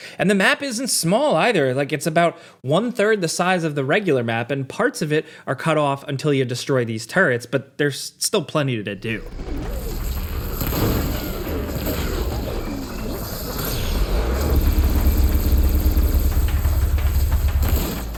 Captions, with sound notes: And the map isn't small either. Like it's about one third the size of the regular map and parts of it are cut off until you destroy these turrets, but there's still plenty to do. (enemies roaring)